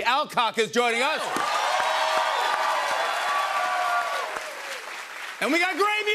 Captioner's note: cheers and applause